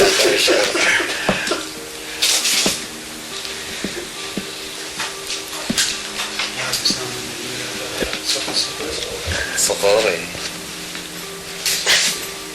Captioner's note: Saddam is laughing